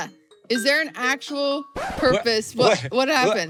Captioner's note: record scratch